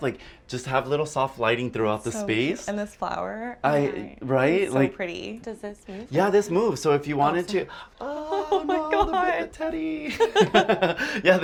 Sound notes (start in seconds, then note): 8.0 laughs; 8.2 both laugh